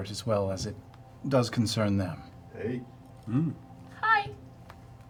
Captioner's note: none